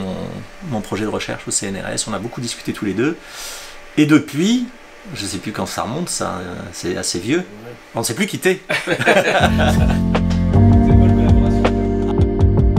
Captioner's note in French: rires